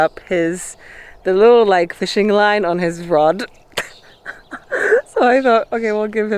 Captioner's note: laughs